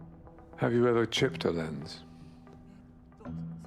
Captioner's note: voiceover